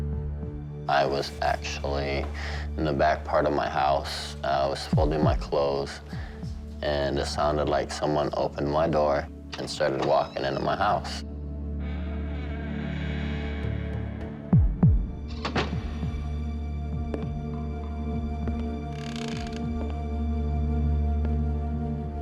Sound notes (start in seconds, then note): 12.1 door creaks; 16.9 footsteps